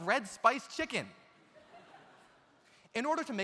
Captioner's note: audience laughs